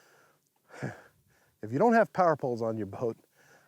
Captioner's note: chuckles